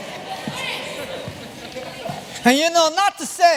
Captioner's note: chatter